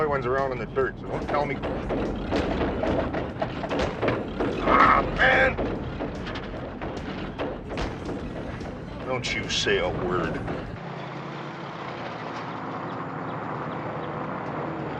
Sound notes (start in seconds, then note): 3.6 van clanking; 4.9 groans